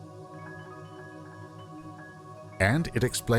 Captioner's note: chiming